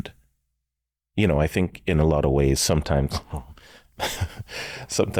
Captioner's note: chuckles